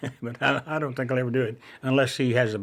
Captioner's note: laughs